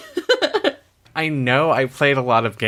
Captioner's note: laughs